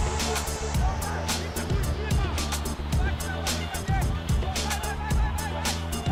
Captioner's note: man shouting